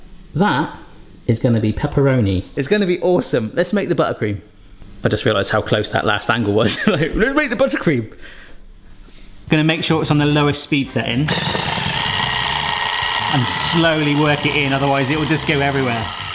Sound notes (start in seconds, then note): 6.8 chuckles; 11.0 mixer noises